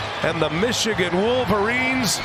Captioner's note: cheers and applause; crowd noise